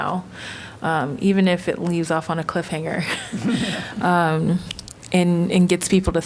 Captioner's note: laughter